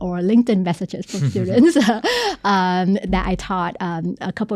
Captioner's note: both laughing